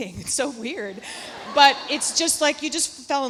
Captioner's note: audience laughs